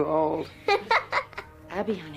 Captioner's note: Abby laughs